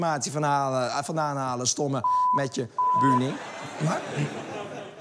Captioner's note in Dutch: piep